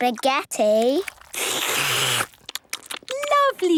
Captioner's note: all slurping